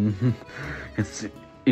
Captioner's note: chuckles